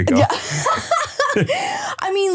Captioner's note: laughing